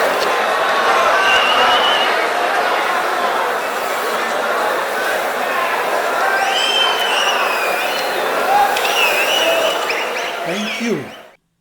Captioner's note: wild applause and cheering for 22 seconds